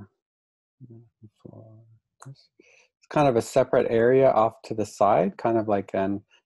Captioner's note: murmurs